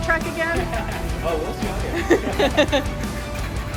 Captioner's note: laughter